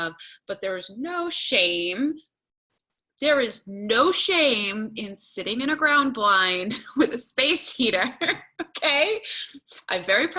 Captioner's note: laughter